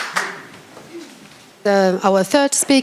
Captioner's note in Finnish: Suosionosoituksia